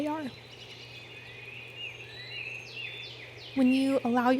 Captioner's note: birds chirping